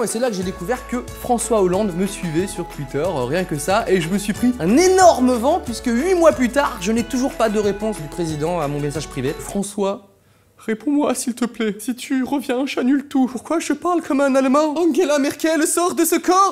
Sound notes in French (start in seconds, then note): 9.5 accent allemand